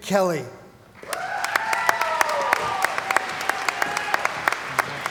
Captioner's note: cheering & Applause